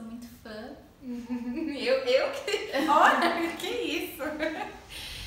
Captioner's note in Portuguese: risos